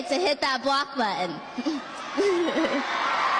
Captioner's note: cheers